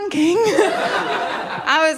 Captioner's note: laughter